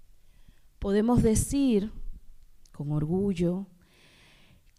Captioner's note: speaking spanish